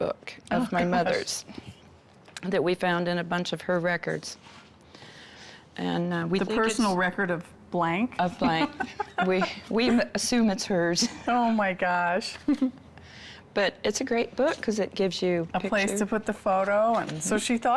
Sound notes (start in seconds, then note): 8.4 laugh